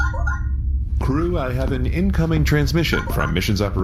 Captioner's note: communicator beeps